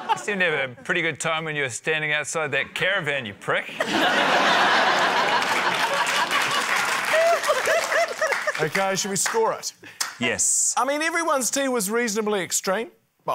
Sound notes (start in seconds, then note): 3.7 laughter; 4.9 applause